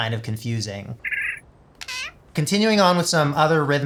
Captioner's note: chittering creature